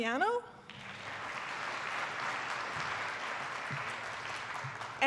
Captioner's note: attendees applauding